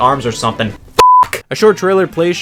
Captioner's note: beep